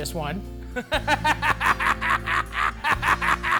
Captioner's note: laughs